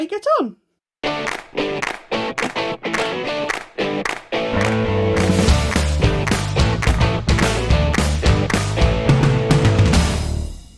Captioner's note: claps